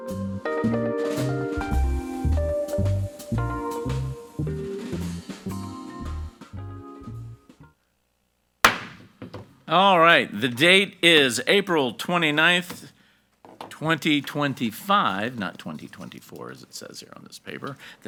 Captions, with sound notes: (relaxing music) (gavel pounds) - All right, the date is April 29th, 2025, not 2024, as it says here on this paper.